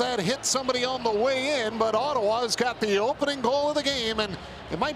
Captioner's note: applause